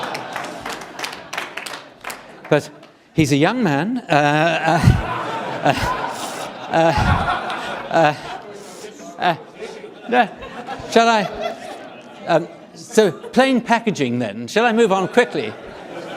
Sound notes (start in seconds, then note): 0.0 applause; 5.5 audience laughing